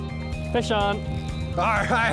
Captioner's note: pat